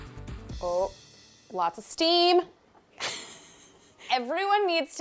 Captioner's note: laughing